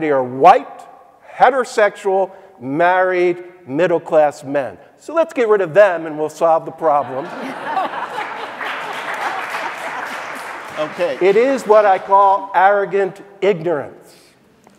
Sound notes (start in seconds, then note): 7.0 audience laughing; 7.2 audience applauding